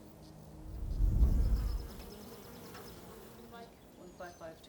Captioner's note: bee buzzing